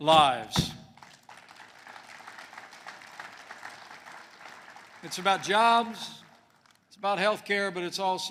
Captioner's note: applause